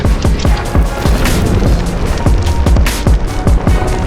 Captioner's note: fire whooshing